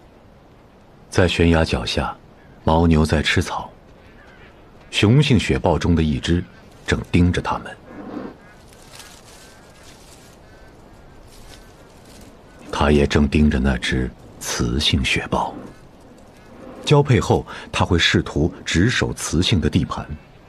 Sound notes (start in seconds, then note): 7.6 leopard chuffing